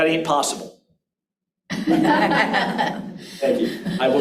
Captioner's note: audience laughs